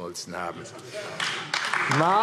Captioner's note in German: Vereinzelter Beifall AfD